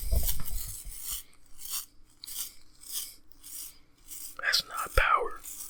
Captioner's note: brush bristles rustling